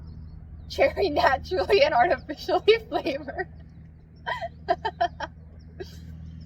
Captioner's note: laughs